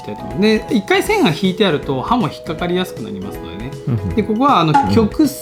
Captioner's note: laughs